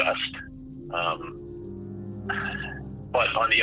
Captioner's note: sighing